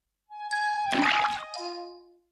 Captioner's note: splash